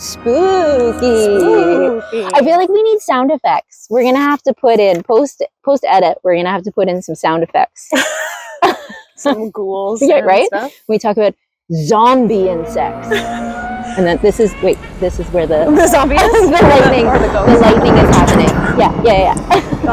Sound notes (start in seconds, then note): 0.0 scary music; 12.9 scary noises; 16.9 scary noises, thunder